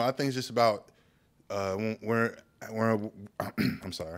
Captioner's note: clears throat